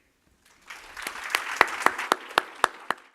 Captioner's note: audience clapping